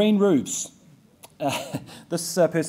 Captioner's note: laughs